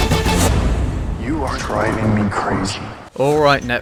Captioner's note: dramatic music; creepy voice echo